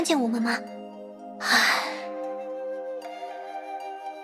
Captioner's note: sigh